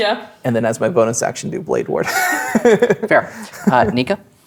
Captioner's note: laughing